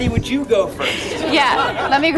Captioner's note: crowd laughing